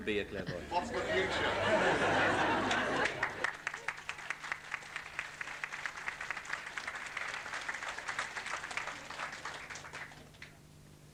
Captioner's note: laughter n claps